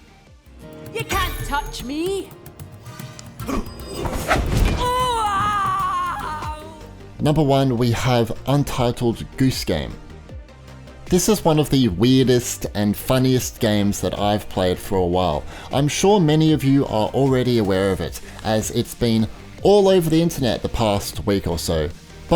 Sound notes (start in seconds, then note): 3.4 hero grunts; 4.0 weapon whooshes; 4.7 enemy woman screams